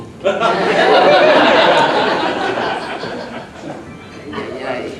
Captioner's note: audience laughing